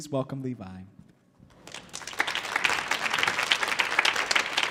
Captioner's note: audience clapping